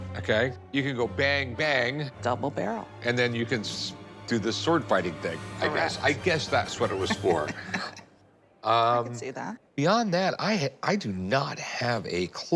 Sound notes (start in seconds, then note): 6.9 laughs